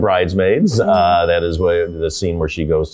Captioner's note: bell dings